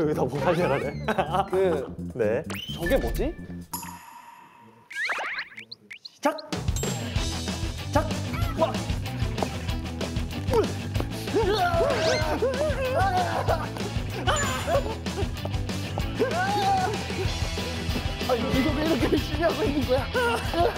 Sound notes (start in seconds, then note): 14.1 Two men screaming at the gym